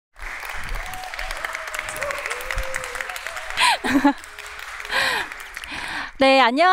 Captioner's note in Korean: 박수와 환호